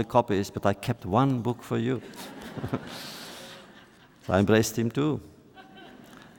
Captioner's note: laughter